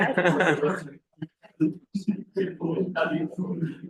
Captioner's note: presenter laughing; people chattering